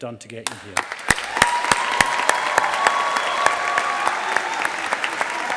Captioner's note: audience applauding